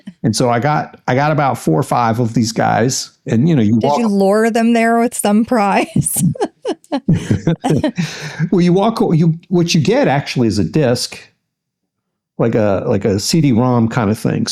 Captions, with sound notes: And so I got about four or five of these guys. And you know, you walk-- You have to lure them there with some prize. (Laughs) Well, you walk, what you get actually is a disc, like a CD-ROM kind of thing.